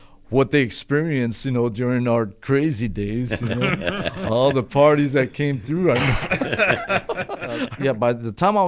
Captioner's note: laughter